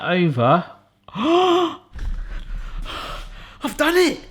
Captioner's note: gasps